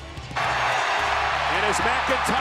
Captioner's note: audience cheering